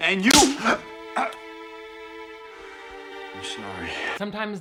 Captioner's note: slap smacking